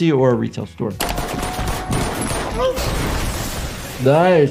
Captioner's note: gunshots firing again